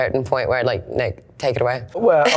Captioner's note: laughs